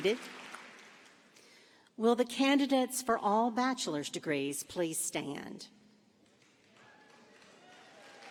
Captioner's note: applause